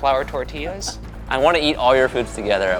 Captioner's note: laughing